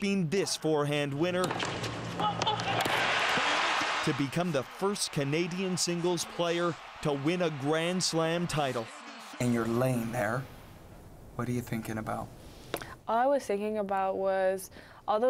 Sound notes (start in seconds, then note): 6.3 cheers and Applause